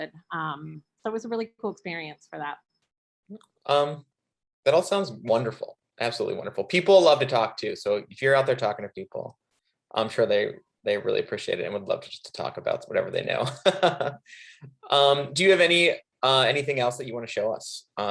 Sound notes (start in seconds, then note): 13.3 laughing